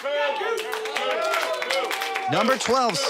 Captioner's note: audience cheers